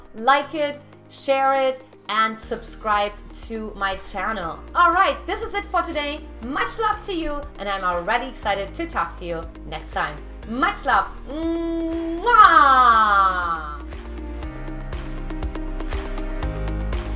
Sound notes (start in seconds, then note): 11.8 kissing sound; 14.1 upbeat music